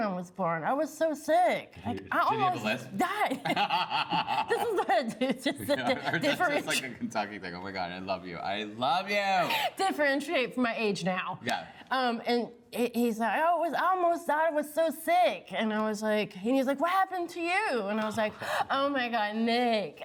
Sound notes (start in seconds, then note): 3.1 laughs